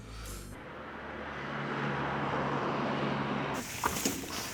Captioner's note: traffic humming